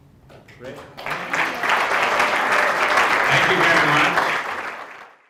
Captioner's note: applause